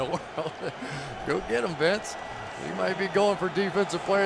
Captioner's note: chuckles